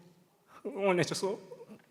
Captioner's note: speaking Korean